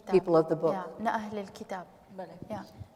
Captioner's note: speaking kurdish